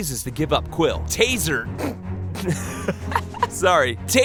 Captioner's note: laughs